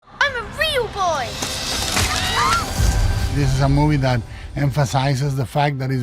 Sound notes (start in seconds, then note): 1.4 wood cracking; 1.9 people screaming